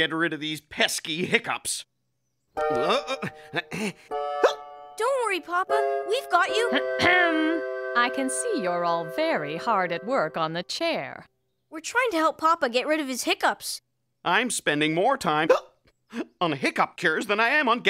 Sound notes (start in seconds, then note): 2.6 hiccupping